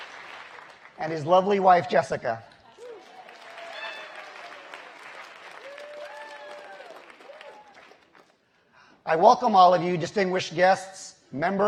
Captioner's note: applause